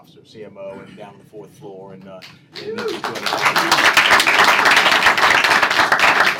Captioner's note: applause